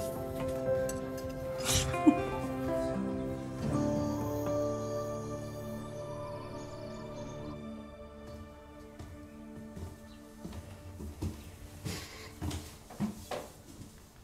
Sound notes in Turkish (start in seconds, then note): 1.6 Gülüyor; 8.0 Ayak Sesi